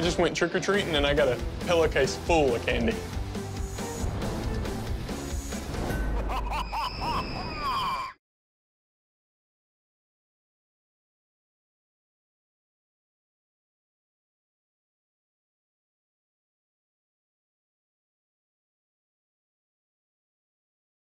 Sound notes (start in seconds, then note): 3.1 rock music; 6.0 evil laughter; 6.5 screaming